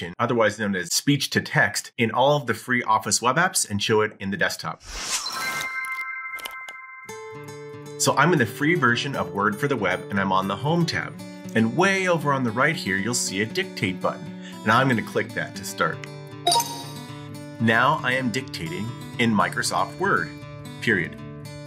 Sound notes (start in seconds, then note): 5.3 bright music; 6.8 gentle music; 16.4 computer chimes